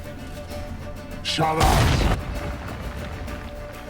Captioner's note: recites incantation